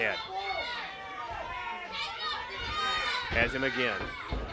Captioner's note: crowd chatter